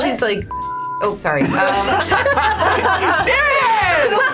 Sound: laughs loudly

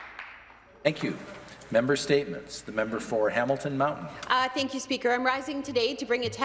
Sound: some Applause

